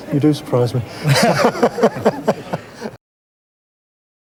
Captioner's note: laughing